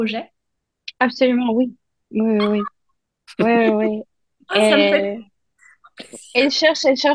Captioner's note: whispers